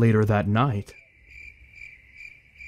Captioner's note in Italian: cicale, grilli e quantaltro che fanno casino